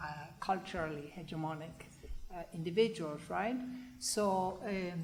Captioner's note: foreign language